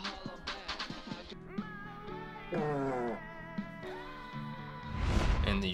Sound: cuts to loud country music; flatulence

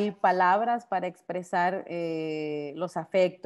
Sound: speaking Spanish

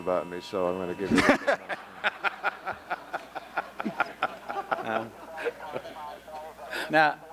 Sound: laughter

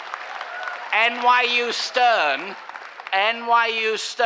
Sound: cheering applause

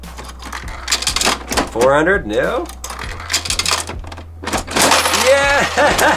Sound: machine churns

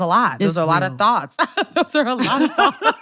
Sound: laughter

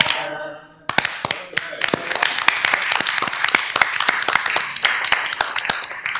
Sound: applause

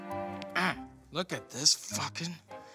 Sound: grunting

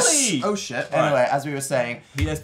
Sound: claps

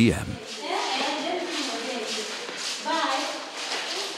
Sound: children talking

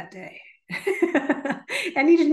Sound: laughs

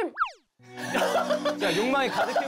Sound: failed to hold laughter

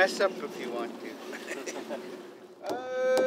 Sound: laughter

